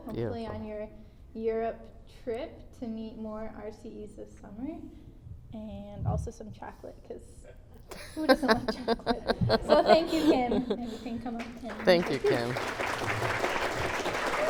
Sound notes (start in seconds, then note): 7.9 laughter; 13.0 clapping